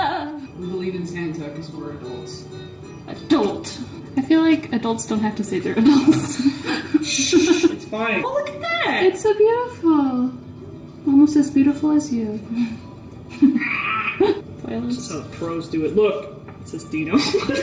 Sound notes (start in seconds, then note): 5.8 laughs; 13.6 raptor noises of appreciation